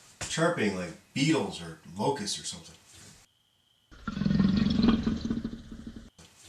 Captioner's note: growl